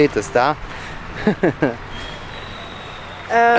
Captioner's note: laughter